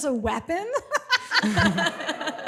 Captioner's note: laughs